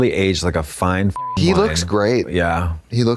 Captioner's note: beep